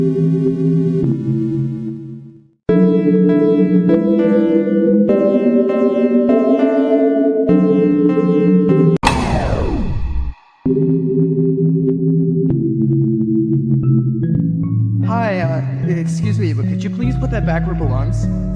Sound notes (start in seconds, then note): 9.0 powering down sound; 13.9 playful music